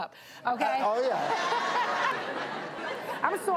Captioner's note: audience laughs